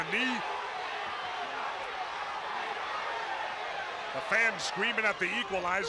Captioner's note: crowd chatter